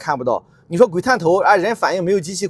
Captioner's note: sudden pedestrians/vehicles